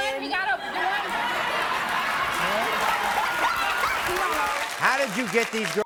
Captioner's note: audience laughs